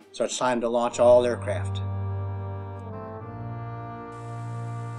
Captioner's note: flight deck noise as jet engines are started